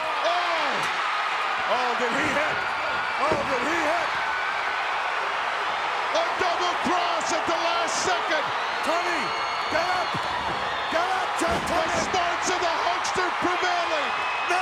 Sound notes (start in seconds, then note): 0.0 metal clangs; 4.2 crowd cheering